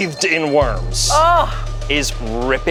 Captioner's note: groans